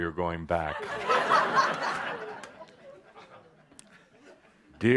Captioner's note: more laughter